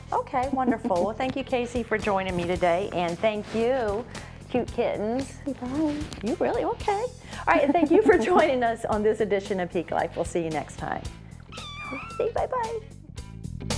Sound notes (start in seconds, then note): 11.4 meow